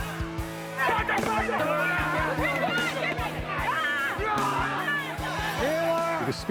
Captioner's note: yelling